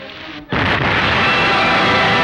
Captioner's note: dramatic music; explosion booms; dramatic music